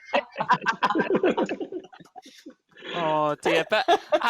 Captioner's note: laughter